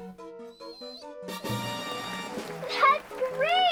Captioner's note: cheering